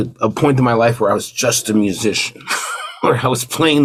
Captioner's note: laughs